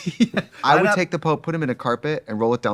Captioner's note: laughing